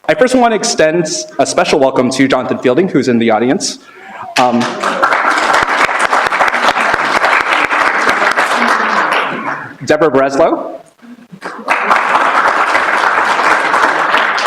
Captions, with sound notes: I first want to extend a special welcome to Jonathan Fielding, who's in the audience. [APPLAUSE] Deborah Breslow. [APPLAUSE]